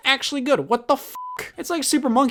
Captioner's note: beep